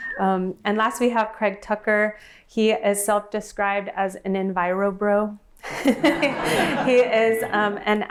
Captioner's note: laughter